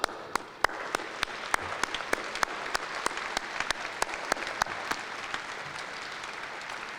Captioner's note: applause